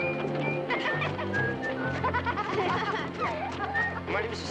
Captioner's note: children laughing